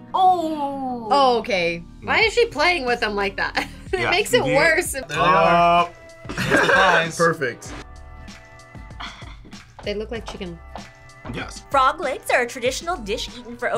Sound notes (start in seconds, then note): 3.2 laughs; 6.3 laughs